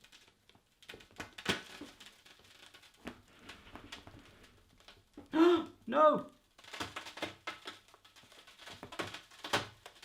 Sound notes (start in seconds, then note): 1.7 crackling; 5.3 gasps